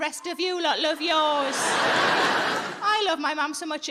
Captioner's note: audience laughing